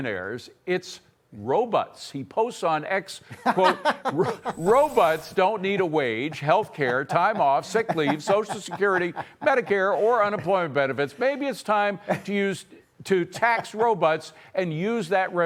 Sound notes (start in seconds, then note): 6.2 laughter